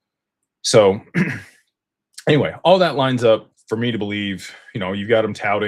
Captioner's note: clears throat